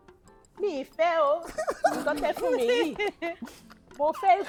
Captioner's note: everyone laughs